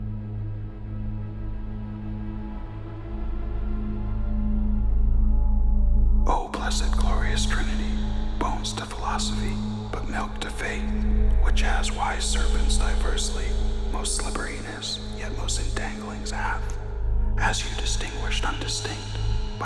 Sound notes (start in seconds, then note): 4.3 man reading softly